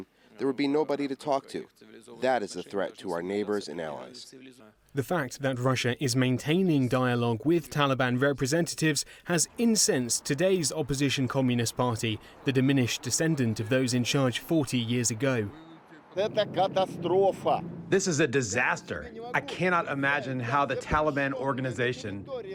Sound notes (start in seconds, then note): 17.0 through translator